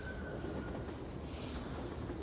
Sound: sniffles

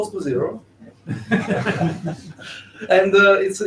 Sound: laughing

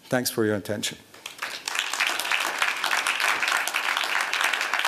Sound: applause

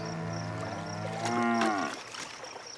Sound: cow mooing

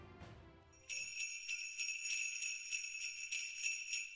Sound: sleigh bells

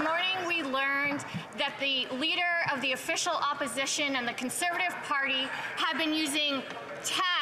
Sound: some Applause

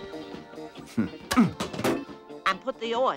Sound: grunting

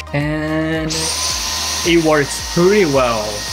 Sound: vacuum whirls

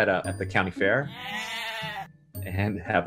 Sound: goats bleat

